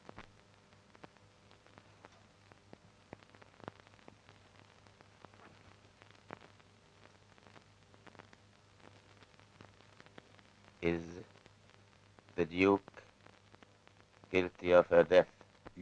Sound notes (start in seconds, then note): none